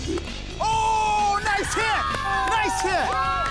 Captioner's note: bat hits ball; crew cheers